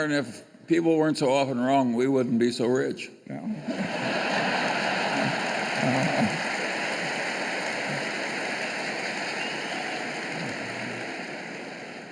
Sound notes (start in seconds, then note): 3.6 laughter and applause